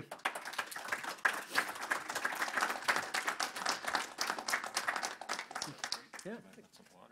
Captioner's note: audience applause